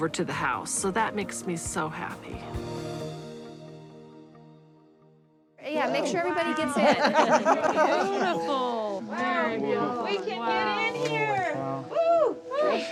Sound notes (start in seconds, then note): 6.6 laughter